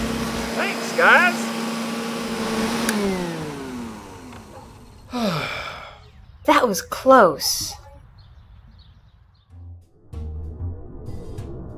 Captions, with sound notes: Thanks guys! (sigh) That was close!